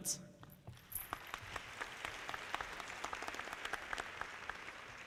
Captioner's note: audience clapping